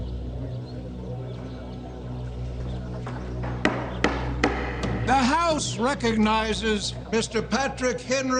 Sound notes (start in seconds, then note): 1.6 birds chirping